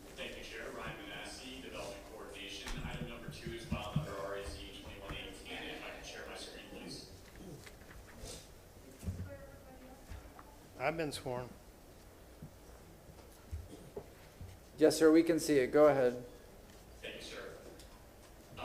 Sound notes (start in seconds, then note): 6.7 off microphone